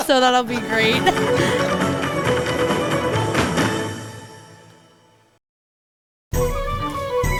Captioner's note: laughing; traditional music; traditional music